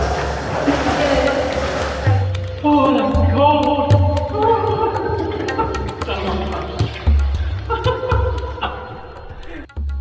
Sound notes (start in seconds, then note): 2.8 moans and laughs